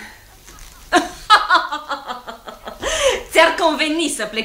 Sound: Suzy laughs

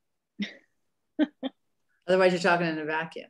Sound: laughs

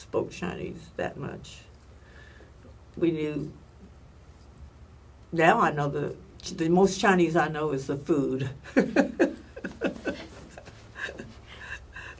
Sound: laughs

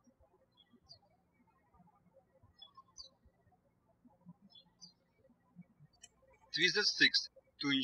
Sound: birds chirping

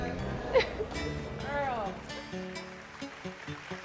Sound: applause

